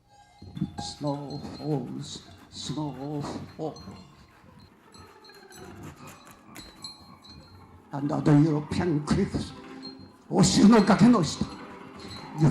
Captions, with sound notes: Snow falls, snow falls. (chimes clattering) (reciting in Japanese)